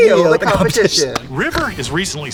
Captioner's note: Katya laughs